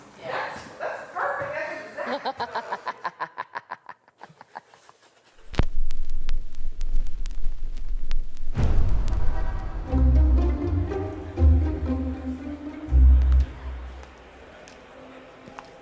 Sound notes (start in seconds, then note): 2.0 sinister laugh; 8.5 car horn